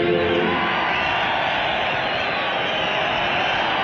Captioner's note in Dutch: gejuich